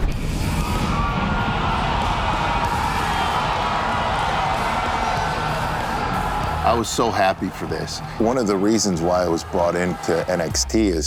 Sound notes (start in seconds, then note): 0.5 upbeat music; 0.6 fans cheering